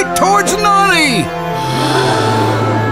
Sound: crowd gasps

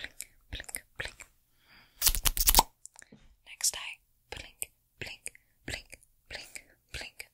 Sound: mouth Sounds

